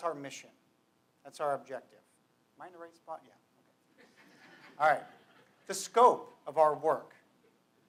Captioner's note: lower voice; laughter